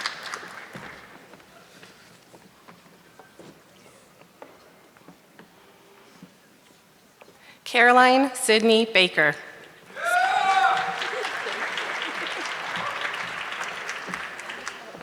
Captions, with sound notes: Caroline Sidney Baker. (audience clapping)